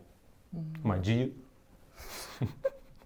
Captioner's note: laughing